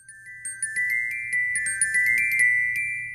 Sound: chimes

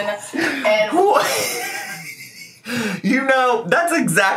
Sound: laughs

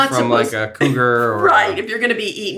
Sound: laughs

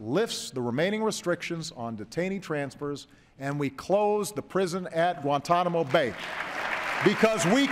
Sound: applause

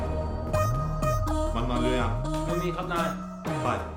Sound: Malay Language

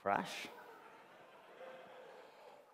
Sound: laughter

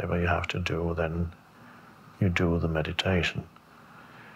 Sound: breathes deeply

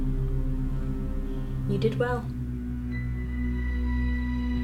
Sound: faint heartbeat

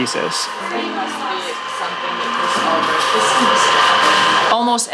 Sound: chattering

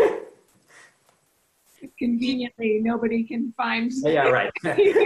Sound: laughs

